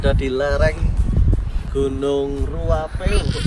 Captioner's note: the wind is so strong that it goes into all microphones